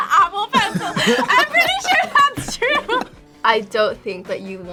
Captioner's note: laughs